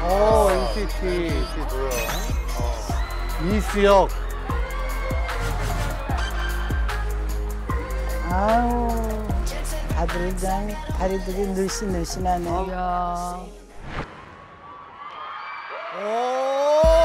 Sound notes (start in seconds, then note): 14.2 cheering